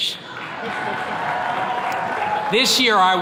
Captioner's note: attendees clapping